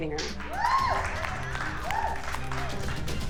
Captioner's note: applause, whooping